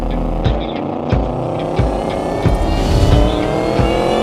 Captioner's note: car engine roaring